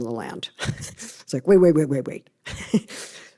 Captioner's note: laughs